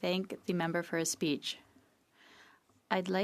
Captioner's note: speaking French